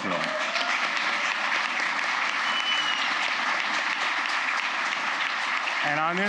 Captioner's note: applause